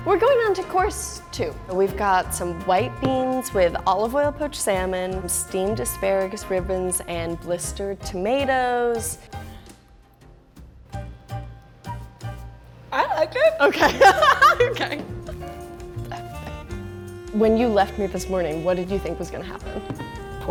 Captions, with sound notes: - We're going on to course two. We've got some white beans with olive oil poached salmon, some steamed asparagus ribbons, and blistered tomatoes. (upbeat music) - I like it. - Okay! (laughter) When you left me this morning, what did you think was gonna happen?